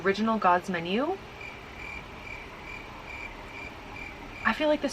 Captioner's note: crickets